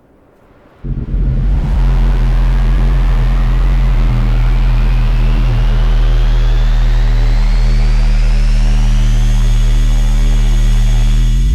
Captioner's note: running; spaceship taking off